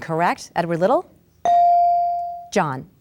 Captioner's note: bell dings